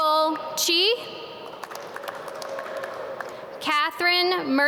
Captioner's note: audience clap